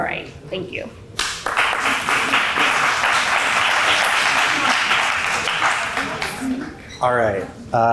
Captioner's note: applause